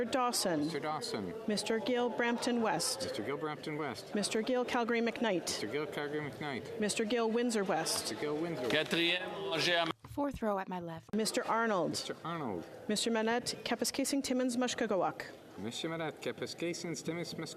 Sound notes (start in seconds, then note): 2.9 calling of recorded vote